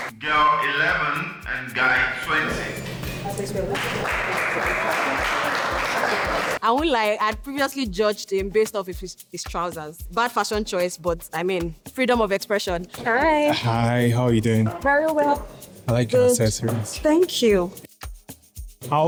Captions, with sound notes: Girl 11 and Guy 20. (clapping) I won't lie, I had previously judged him based off his trousers. Bad fashion choice, but I mean, freedom of expression. Hi. Hi, how are you doing? Very well. I like your accessories. Thank you.